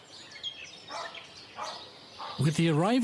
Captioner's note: dog barking